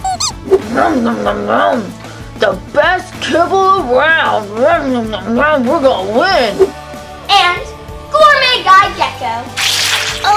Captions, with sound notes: (dog chewing) - The best kibble around. We're gonna win. - And gourmet guy, Gecko.